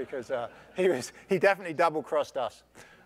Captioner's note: laugh